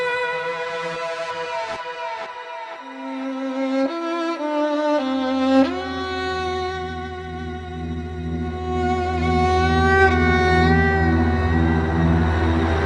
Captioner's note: clapping